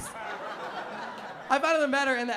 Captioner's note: laughter